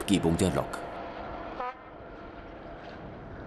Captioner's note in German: Kurzes Zughupen